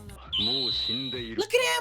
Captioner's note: speaking in foreign language